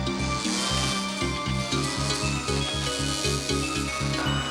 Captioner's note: car rumbling